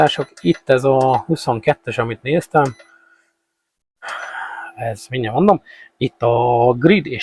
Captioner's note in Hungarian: sóhajtás